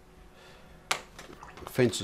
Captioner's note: silence